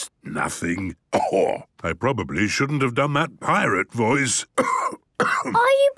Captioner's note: cough